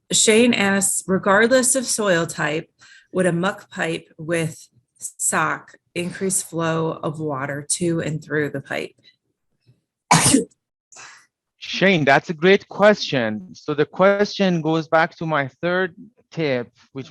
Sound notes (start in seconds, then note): 10.1 sneezes